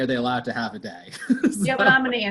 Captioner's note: laughs